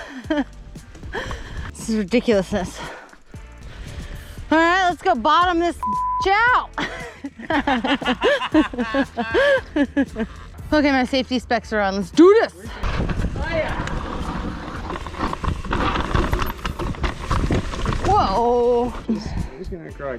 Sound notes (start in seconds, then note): 5.8 beep; 6.7 both laugh